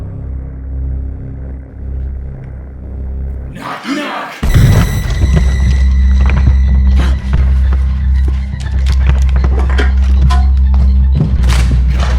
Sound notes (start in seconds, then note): 6.5 gasp!